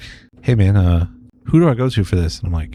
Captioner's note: uh